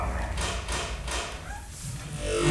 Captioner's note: metal clicking; tense music